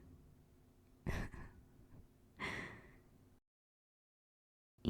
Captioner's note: laugh